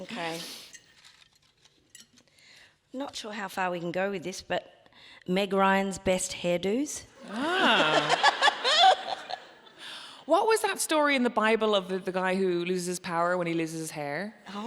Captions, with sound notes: - Okay, not sure how far we can go with this, but "Meg Ryan's best hairdos." (audience laughing) - Ah! What was that story in the Bible of the guy who loses power when he loses his hair?